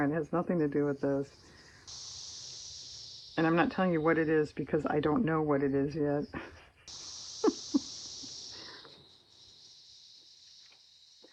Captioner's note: laughs